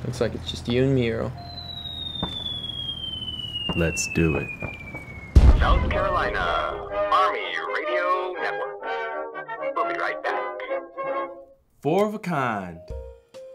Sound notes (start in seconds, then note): 1.3 bomb whistling